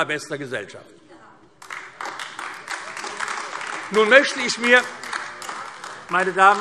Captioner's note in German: Beifall AfD